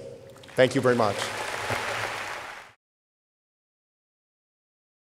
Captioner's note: audience applauding